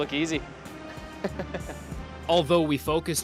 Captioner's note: chuckles